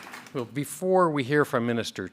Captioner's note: a pplause